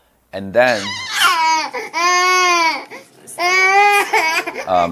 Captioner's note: baby crying